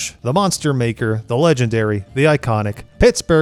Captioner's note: none